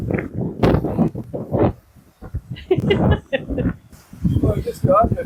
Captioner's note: laughter